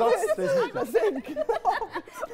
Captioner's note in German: Lachen, Gemurmel